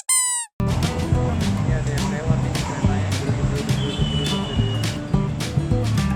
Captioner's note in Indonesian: suara kereta lewat